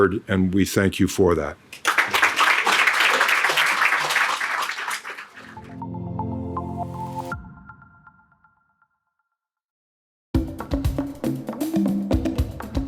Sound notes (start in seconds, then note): 1.7 audience clapping; 5.5 mellow music; 10.3 distinct music